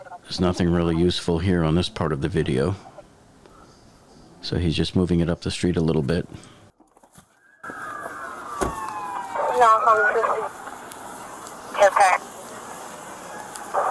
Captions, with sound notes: There's nothing really useful here on this part of the video, so he's just moving it up the street a little bit. (sirens wailing) (radio dispatching in background)